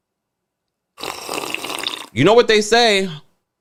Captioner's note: person slurping